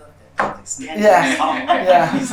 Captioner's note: laughter